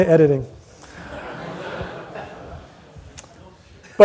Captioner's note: laughter